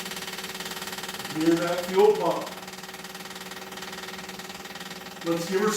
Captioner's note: fuel pump clicking